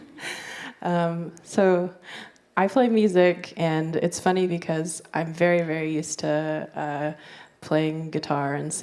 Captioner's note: laughter